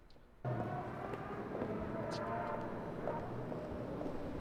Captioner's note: heels clicking